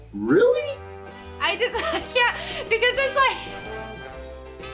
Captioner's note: laughs